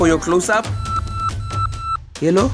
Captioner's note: phone beeps